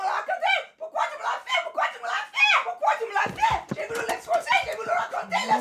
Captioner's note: Cassie screaming in French